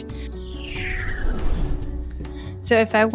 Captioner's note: whoosh transition